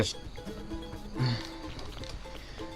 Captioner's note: groan